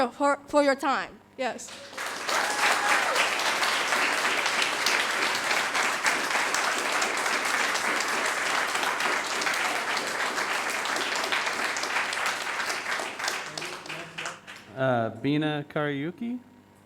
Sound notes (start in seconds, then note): 2.2 audience applauding; 2.2 cheering